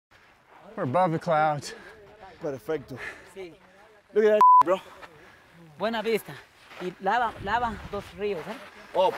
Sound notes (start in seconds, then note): 4.4 beep; 5.9 speaking foreign language